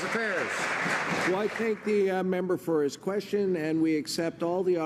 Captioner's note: some Applause